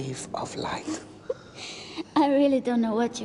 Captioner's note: <i> laughs</i>